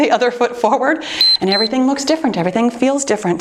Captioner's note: timer beeps